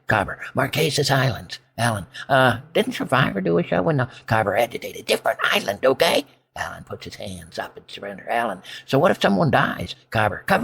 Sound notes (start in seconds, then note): 4.8 agitated